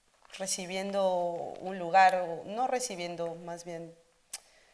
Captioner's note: speaking Spanish